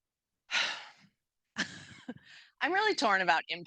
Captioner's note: heavily sighing